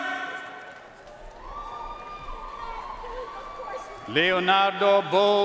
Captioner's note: audience cheering and applauding